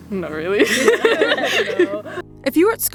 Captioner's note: girls laughing